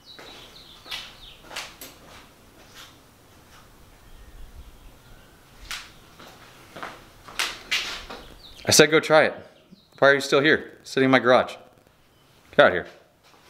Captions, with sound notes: (departing footsteps) (approaching footsteps) I said go try it. Why are you still here, sitting in my garage? Get outta here.